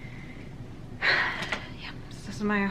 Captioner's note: sighs